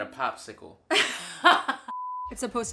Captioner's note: laughing